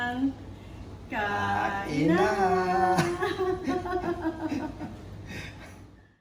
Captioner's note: both laugh